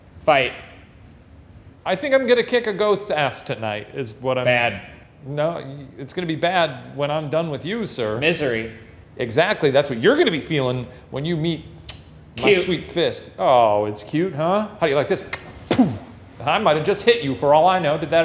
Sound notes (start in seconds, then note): 11.8 kisses; 15.3 kisses